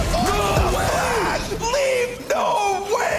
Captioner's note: screaming